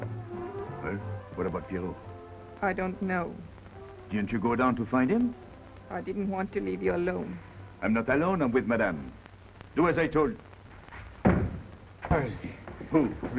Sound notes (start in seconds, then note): 10.9 thudding